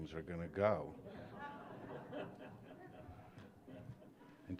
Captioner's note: laughter